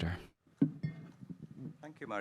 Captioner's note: microphone clinks